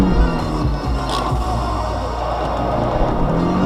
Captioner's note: hand brake sounds mixed in